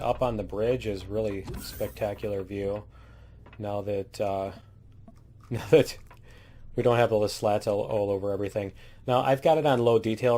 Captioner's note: laughs